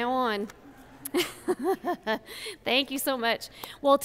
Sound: laughs

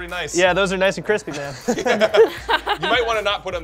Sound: laughter

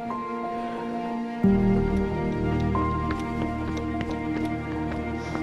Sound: breathing heavily

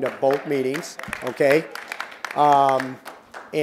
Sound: applause

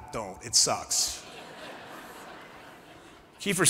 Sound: laughter

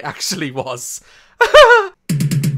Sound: laughs

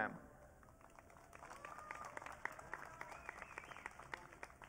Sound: audience cheering

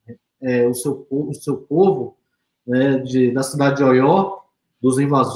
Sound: speaks portuguese

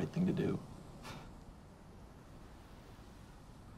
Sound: scoffs

